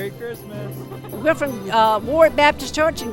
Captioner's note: chuckling